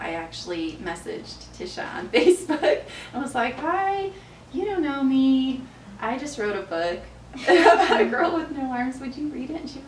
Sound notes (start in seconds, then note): 2.4 laughs; 7.4 laughs